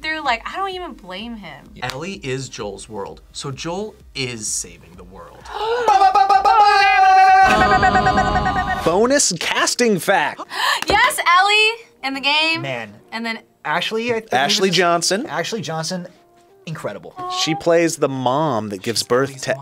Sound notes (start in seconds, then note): 5.4 gasps; 5.8 imitate airhorns; 10.4 gasps